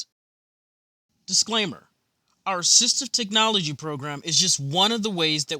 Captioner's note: voiceover